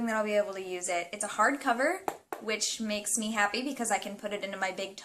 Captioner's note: knocking on cover